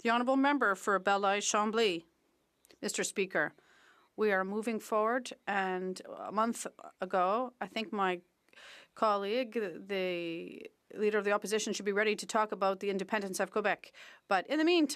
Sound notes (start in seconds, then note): 4.5 speaking French